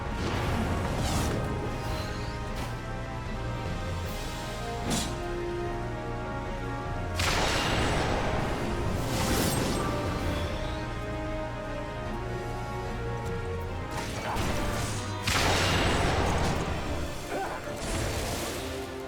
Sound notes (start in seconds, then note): 14.1 dramatic music; 14.4 gun fires; 15.2 dramatic music; 18.3 dramatic music